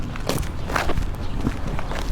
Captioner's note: footsteps